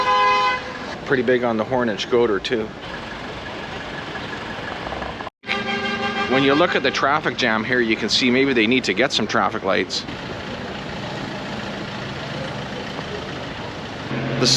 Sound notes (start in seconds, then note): 1.0 car Horns!